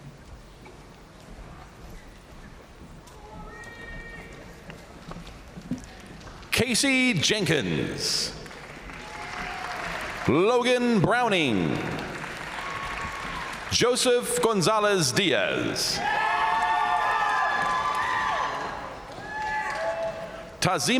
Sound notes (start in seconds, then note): 3.2 crowd member shouting; 7.8 crowd applauding; 12.2 crowd cheering; 15.9 crowd cheering; 16.0 crowd applauding